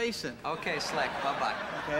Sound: audience laughing

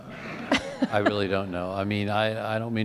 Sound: laughter

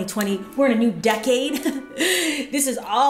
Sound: laughs

